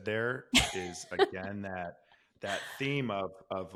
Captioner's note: laughs